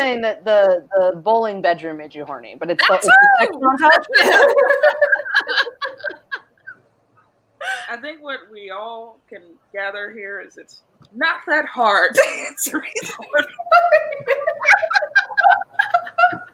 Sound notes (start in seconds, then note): 3.8 all laugh; 13.2 all laugh